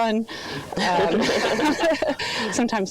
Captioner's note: laughing